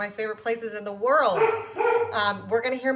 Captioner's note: dog barking